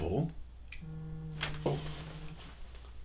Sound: cell phone vibrates

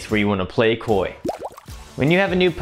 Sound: water bubbling

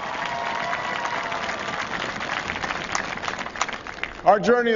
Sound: applause

